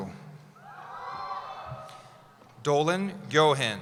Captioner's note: cheering